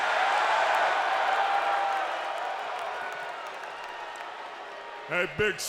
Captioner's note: applause